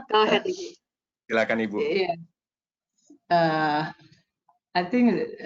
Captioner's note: mumbles